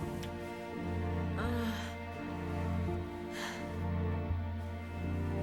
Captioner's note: moaning